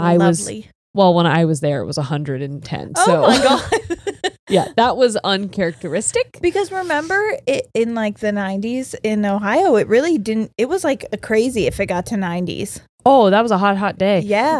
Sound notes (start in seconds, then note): 3.0 laughs